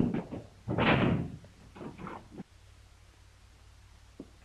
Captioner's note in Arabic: صوت طرق الباب